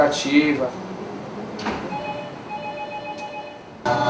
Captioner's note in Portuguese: Som ambiente, telefone toca